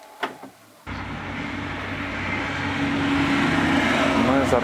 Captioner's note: sound of heavy vehicle passing